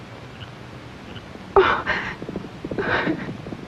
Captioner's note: sobbing; hoofbeats approaching